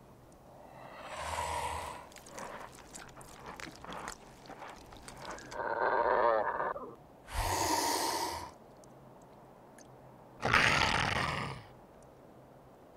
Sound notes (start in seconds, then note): 1.0 slurping; 5.0 growl; 10.4 snarls